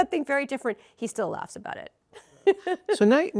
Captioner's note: laughs